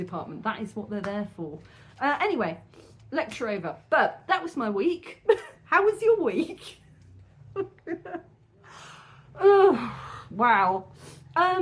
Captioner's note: laughing